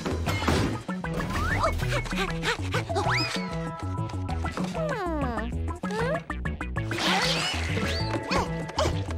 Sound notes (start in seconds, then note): 1.8 panting